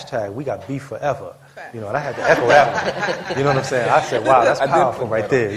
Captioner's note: laughter